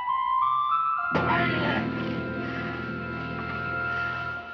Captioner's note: grunts